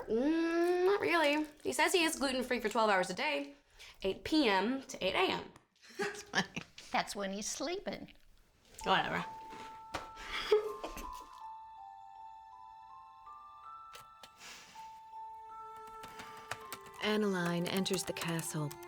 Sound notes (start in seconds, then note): 10.2 giggles; 14.3 inhales; 15.6 typing